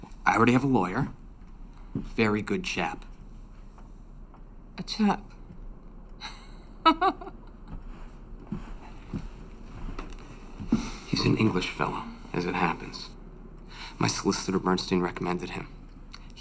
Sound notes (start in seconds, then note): 6.2 laughs